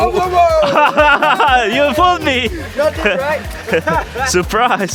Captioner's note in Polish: laughs